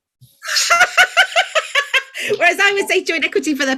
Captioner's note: hysterical Laughter